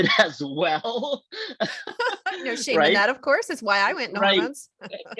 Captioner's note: laughs